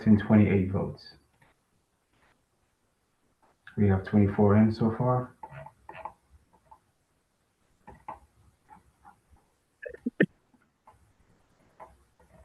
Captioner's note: pause